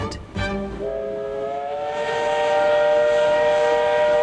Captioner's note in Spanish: Silbido de tren